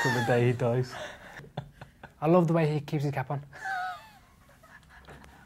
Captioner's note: laughs; laughs